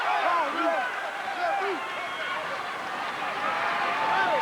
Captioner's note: crowd cheering